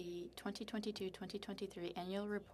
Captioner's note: speaking French